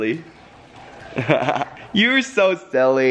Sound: laughs

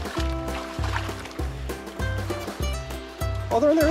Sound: water splashing

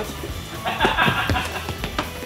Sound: laughing

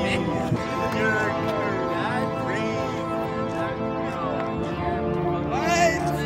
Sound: people chatter indistinctly

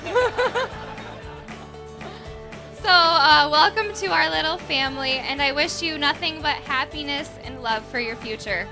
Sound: laughs

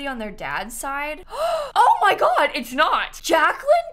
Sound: gasps

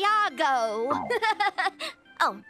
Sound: chuckles awkwardly

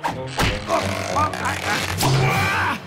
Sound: grunting

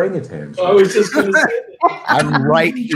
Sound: laughs

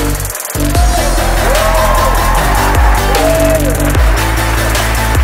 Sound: cheering; upbeat techno music

